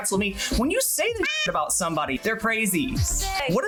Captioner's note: meow